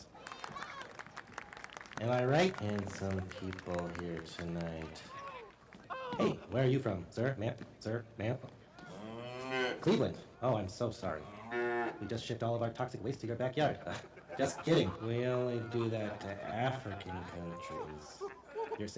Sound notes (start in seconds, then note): 0.0 applause; 11.2 cow mooing; 13.6 laughter